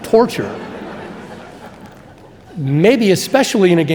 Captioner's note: audience laughing